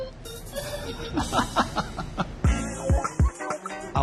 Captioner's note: laughter